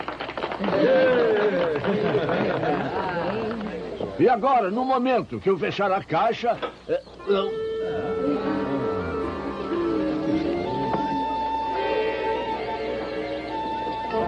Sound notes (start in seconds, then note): 0.1 indistinct chattering; 7.0 all murmuring